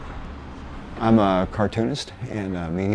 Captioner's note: voiceover